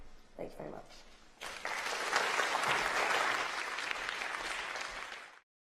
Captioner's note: applause